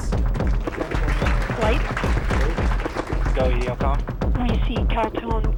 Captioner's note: crowd claps drowns out speaker